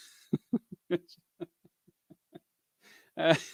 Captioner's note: laughs